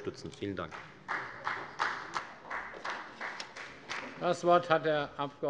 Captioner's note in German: Beifall bei der FDP